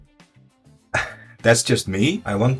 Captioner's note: laughs